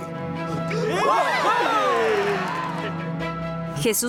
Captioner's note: gasps; cheering